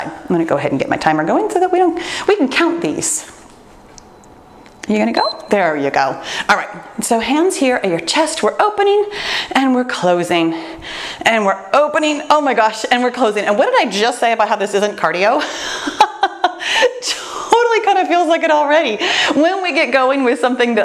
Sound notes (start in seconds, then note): 5.1 timer beeps; 15.7 laughs